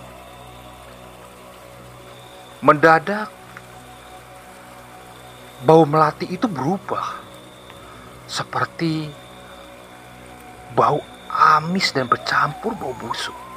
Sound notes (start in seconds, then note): 3.3 applause